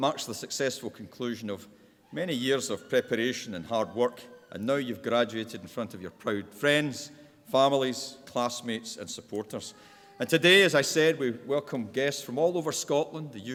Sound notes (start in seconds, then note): none